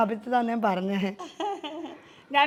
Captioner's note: laughter